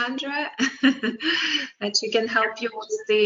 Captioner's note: laughs